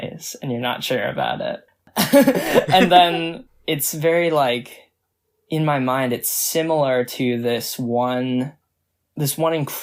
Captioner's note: both laugh